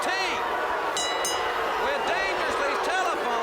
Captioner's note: bell ringing